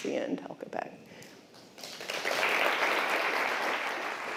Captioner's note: applause